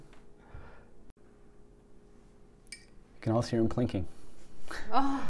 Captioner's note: clink